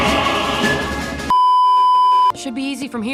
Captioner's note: beeeeeep